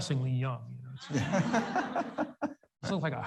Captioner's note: audience laughs